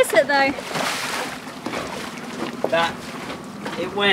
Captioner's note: water splashes